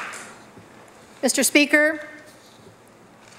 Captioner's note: applause